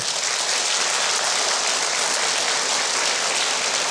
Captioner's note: audience applauds